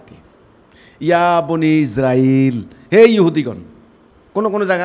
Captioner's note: Arabic